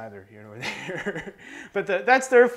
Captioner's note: laughing